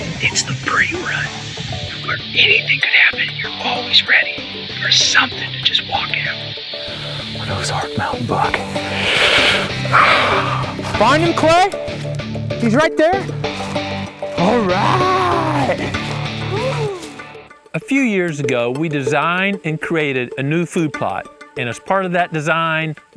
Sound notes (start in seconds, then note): 7.1 whispering